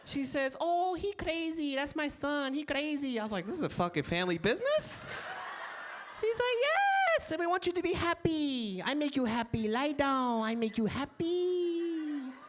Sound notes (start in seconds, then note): 4.8 audience laughs